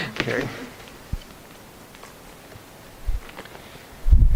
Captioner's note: album pages flipping